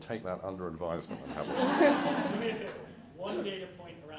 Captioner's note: audience laughs